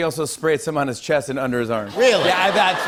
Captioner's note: laughter